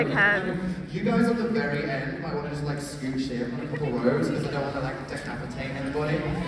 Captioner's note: none